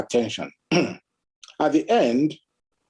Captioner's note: clears throat